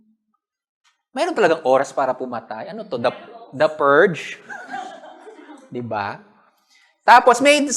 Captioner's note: laughs